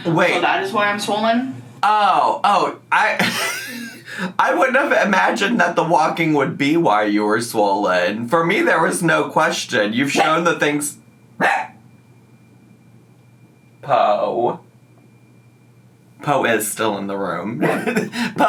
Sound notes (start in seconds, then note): 3.1 laughs; 11.4 Po barks